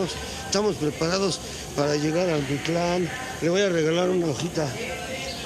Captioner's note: in Nahuatl